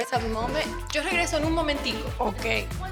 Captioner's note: speaks Spanish